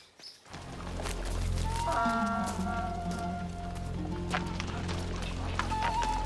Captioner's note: donkey braying